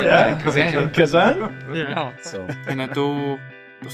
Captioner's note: laughs